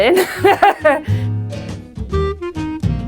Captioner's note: laughing; jazzy music playing